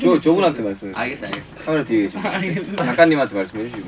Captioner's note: laughs